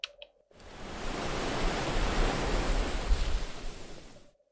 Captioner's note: sploooosh